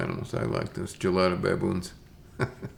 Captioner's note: chuckles